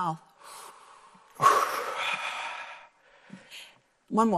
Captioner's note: breathing